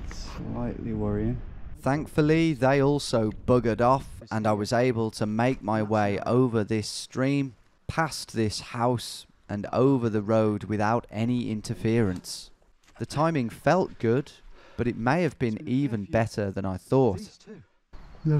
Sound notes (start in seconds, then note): 1.9 voiceover